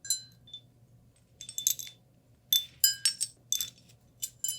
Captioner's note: tinkle / Clink